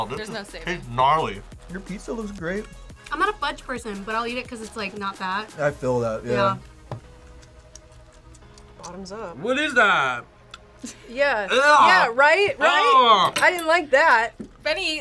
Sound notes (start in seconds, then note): 6.6 smacks lips; 10.6 laughs